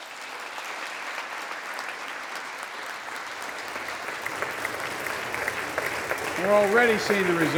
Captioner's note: applause